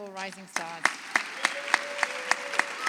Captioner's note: audience applauds